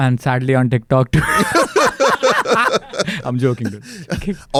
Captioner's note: laughs